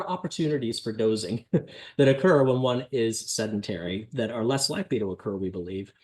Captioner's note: laughter